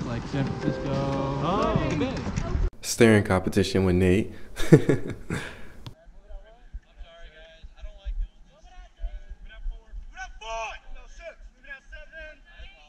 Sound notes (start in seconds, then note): 4.4 laughing